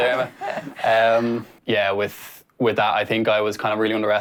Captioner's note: they laugh